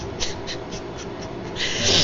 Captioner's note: sobbing